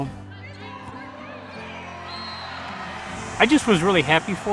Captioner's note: volleyball players cheering